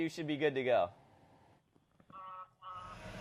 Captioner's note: horn honking